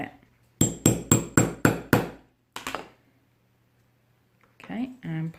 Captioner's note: sound of hammering